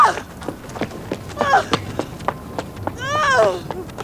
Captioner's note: sobbing